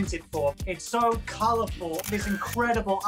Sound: shutter sound

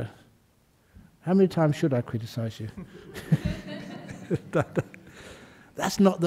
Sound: laughter

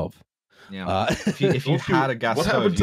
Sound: laughs

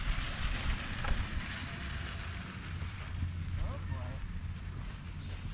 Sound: gravel crunching; bike motor whirring

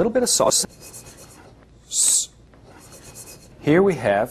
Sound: ingredients shaking

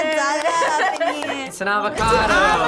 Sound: laughs

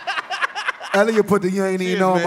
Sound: laughter

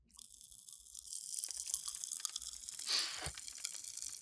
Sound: Staz crackling

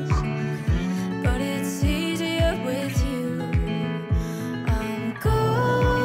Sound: none

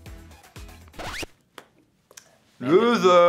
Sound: record scratch

